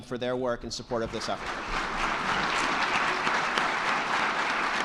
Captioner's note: all clapping